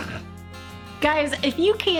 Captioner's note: laughing; snorts